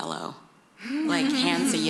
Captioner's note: laughter